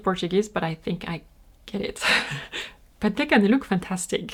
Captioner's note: laughs